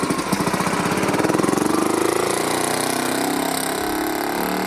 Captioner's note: car engine revving